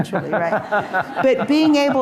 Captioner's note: audience laughing